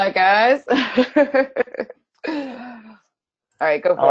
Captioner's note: giggles